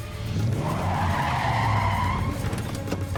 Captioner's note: tires screech